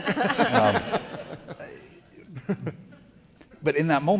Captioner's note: everyone laughing